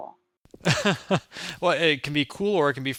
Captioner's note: laughing